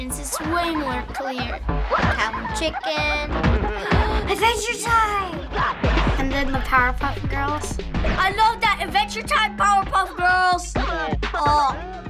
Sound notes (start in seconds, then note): 3.4 gasping